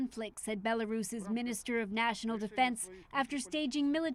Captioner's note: speaking foreign language